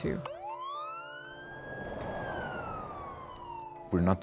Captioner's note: siren wails